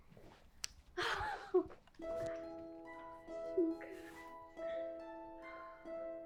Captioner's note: speaking foreign language